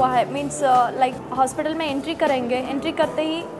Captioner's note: non-english